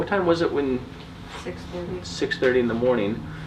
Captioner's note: lady voice